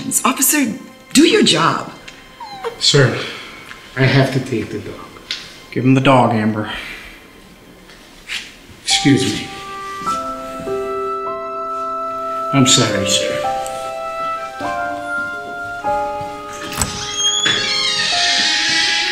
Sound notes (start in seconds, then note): 2.3 Shadow whimpers; 10.0 somber music